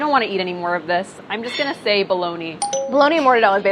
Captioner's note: dinging